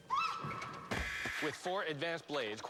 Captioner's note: screams